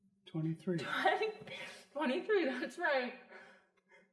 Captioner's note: laughs